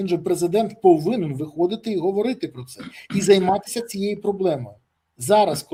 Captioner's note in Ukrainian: прочищення горла